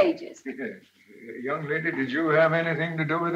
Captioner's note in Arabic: يضحك